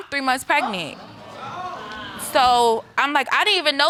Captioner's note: audience exclaims